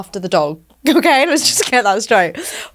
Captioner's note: chuckles